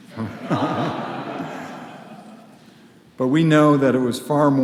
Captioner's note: audience laughs